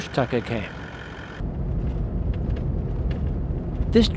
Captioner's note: vehicle sounds